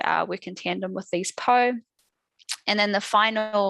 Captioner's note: non-english speech